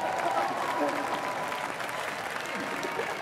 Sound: applause

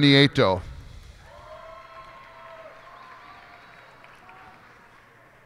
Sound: cheers and applause

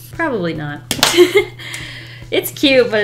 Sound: laughs

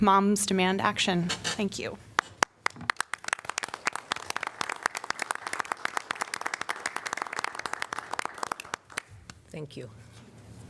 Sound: applause

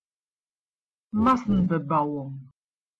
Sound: fast Pronunciation

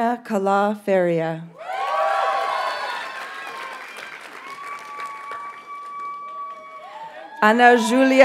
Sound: audience cheers and applauds

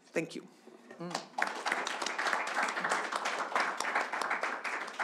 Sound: audience applauding

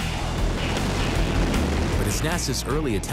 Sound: explodes

